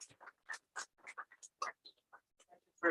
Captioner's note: applause